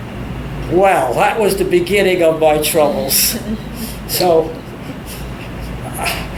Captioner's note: all laugh